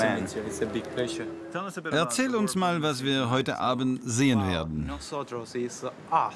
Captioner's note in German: englisch